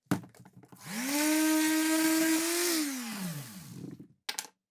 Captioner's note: sander whirring